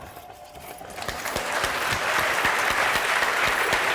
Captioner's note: applause